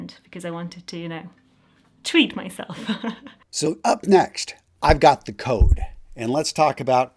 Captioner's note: laughs